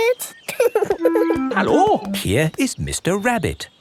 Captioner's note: laughing